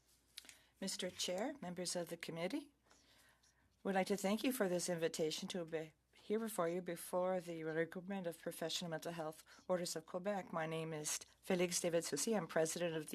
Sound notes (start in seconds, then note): 4.7 speaking French